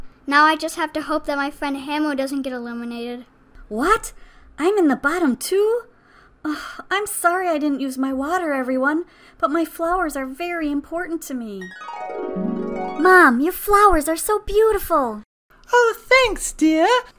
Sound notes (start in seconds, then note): 11.6 flashback Sound